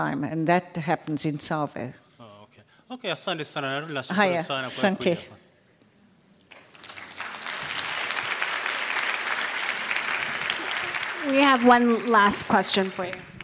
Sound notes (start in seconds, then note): 3.4 speaking swahili; 5.5 speaking swahili; 6.5 applause